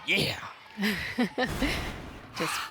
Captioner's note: chuckles